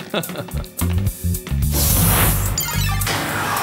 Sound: Cyril chuckling

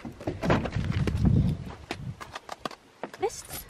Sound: door being opened

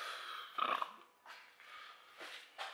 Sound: burp

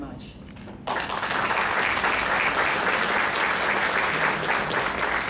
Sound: crowd clapping

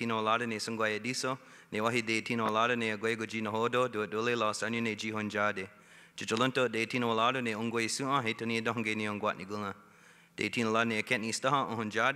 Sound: speaking Indigenous Language

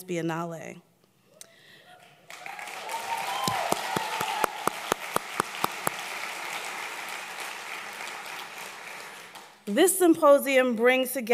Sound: applause

